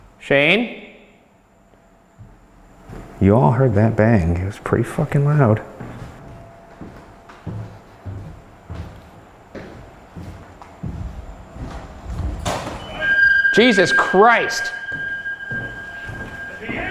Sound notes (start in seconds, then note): 0.0 footsteps descending; 6.3 footsteps descending; 12.8 bright eerie music; 14.7 footsteps padding